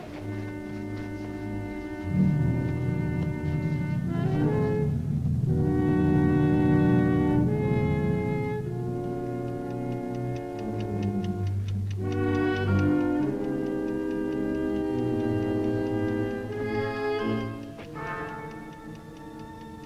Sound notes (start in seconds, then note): 9.8 ticking